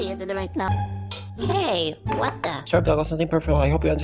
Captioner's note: clang